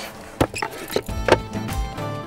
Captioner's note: Cupboard opening